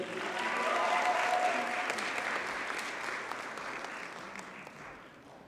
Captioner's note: audience cheers and applauds